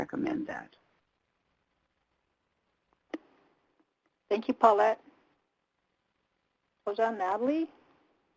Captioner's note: native language spoken